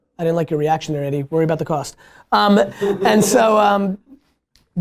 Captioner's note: laughter